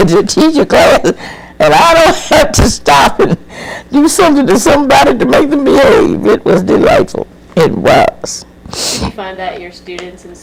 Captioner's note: laughs